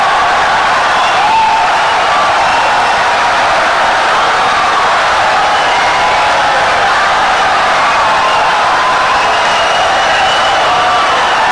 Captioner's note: wild applause and cheering for 17 seconds